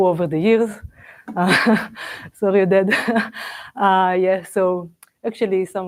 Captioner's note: laughs